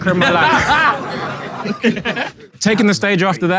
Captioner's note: people in room murmur and laugh